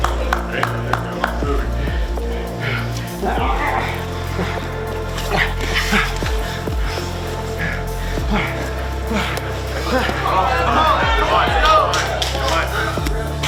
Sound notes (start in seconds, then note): 0.0 audience clapping; 3.5 man grunts; 5.7 breathes heavily